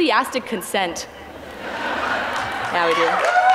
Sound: audience laughs, claps, and cheers

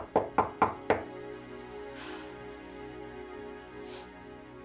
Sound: knocking on door

